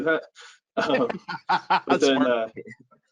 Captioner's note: laughs